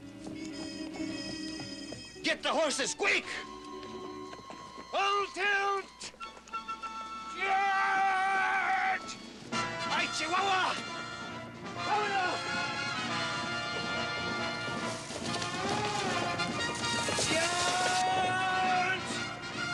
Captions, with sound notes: GET THE HORSES, QUICK! FULL TILT! CHARGE...! ¡AY, CHIHUAHUA! ( shouting ) CHARGE!